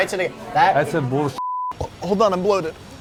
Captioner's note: beep